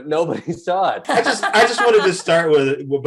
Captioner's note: Desi laughs